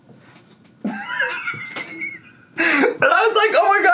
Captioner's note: laughs